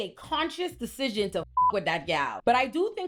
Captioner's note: beep